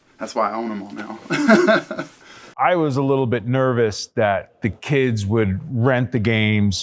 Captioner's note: laughs